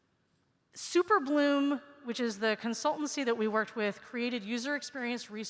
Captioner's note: none